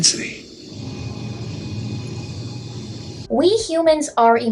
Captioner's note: rumbling